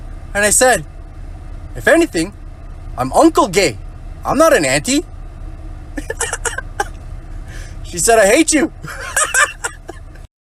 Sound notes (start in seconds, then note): 8.8 laughs